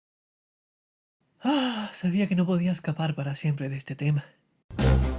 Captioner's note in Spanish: suspiro